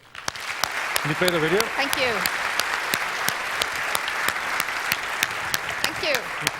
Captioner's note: applause